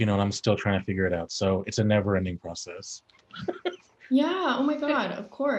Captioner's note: chuckles